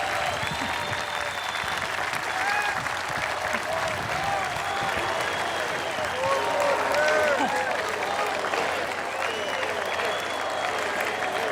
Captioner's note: applause